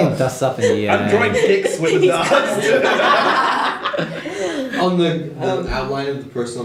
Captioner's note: laughter